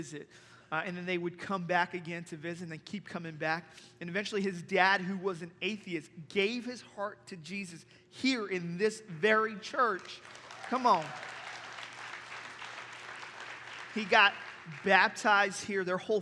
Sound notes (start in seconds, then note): 9.8 applause